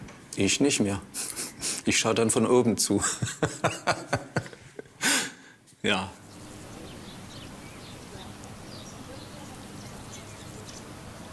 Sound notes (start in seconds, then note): 3.0 he laughs; 5.9 birds chirping